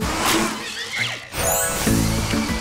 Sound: whirrs

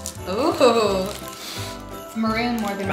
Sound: sniffs

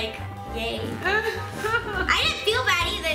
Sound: laughing

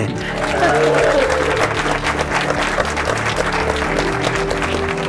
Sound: applause

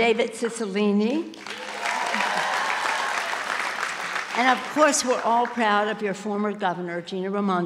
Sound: applause

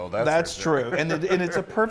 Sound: laugh

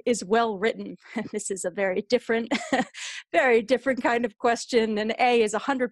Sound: laughter

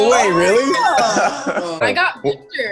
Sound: laughing

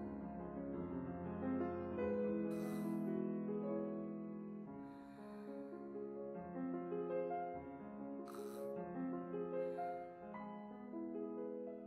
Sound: sighs

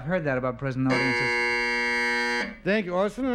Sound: buzzer sounds

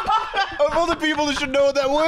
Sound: laughter; cackling

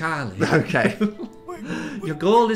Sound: laughs

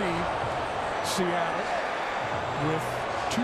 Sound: crowd cheering

